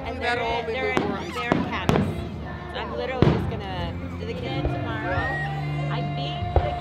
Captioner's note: fireworks